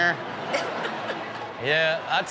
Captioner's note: everyone laughing